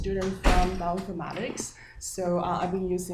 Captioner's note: door slamming